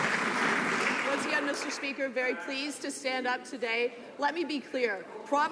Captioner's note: some Applause